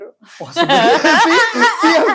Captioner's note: laughs